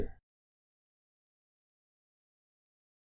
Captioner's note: long intentional silence